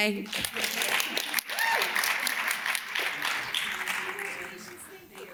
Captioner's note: audience cheers and claps